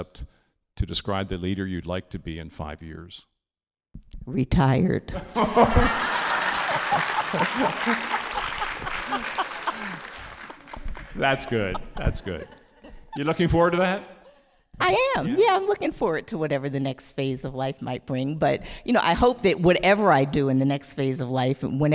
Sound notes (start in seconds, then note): 5.8 all laughing